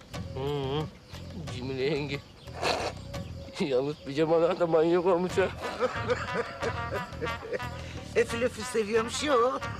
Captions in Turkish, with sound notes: Hım. Cemile yenge... ...yalnız pijamalar da manyak olmuş ha. (Gülme sesleri) Efil efil seviyormuş ya o.